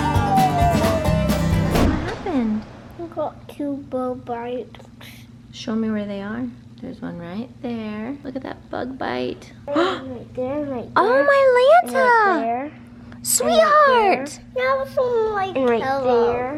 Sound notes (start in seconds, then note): 9.9 gasps